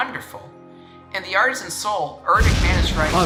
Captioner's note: thunder crashes